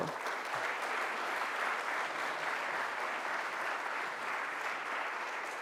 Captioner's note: audience applauds